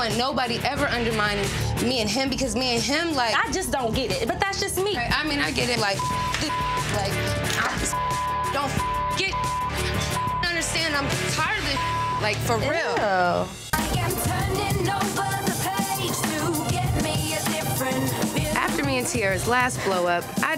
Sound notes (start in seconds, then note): 5.9 beep; 12.0 beep